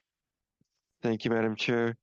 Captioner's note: speaking French